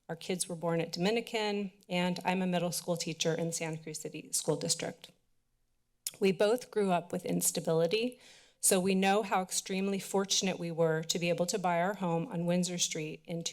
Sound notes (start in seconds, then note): 5.9 clicks tongue